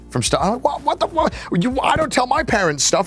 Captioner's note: stutters